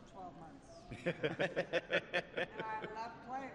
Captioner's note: laughter